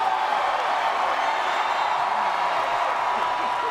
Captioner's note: crowd cheers